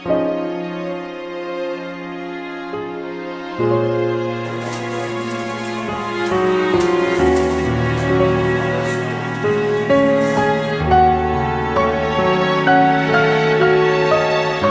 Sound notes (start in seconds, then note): 4.4 paper rustling